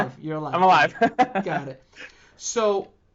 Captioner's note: laughing